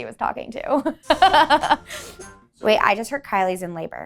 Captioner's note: laughing